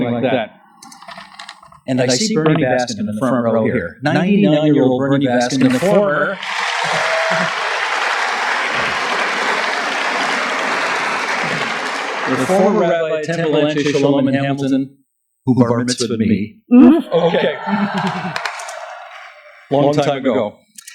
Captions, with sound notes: HERE, SOMETHING LIKE THAT. AND I SEE BERNIE BASKIN, IN THE FRONT ROW HERE. 99 YEAR OLD BERNIE BASKIN AND THE FORMER [APPLAUSE] AND THE FORMER RABBI OF TEMPLE ANSHE SHOLOM IN HAMILTON. WHO BAR MITZVAHED WITH ME. OKAY, LONG TIME AGO.